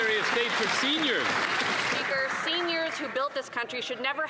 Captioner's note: applause